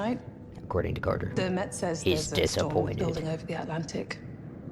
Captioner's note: gruff voice